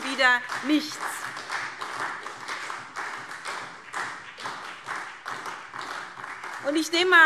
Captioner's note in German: Beifall SPD